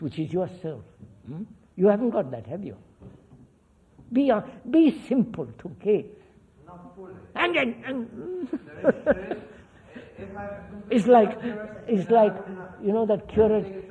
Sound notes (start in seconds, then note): 8.1 laughs